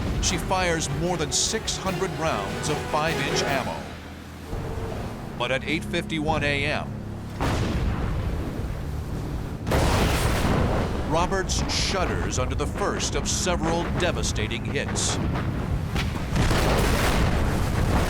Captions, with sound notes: She fires more than 600 rounds of 5-inch ammo. But at 8:51 AM-- [explosions] --Roberts shudders under the first of several devastating hits. [explosion]